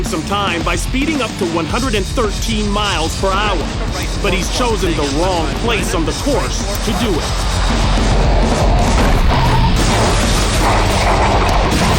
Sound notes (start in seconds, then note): 8.1 tires screech